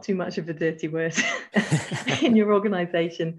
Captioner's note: both laugh